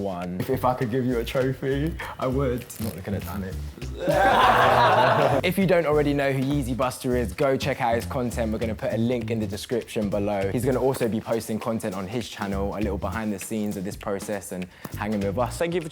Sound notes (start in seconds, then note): 4.0 laughter